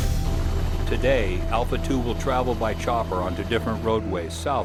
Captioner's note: voiceover